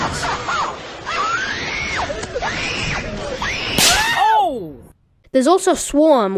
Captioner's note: kid screaming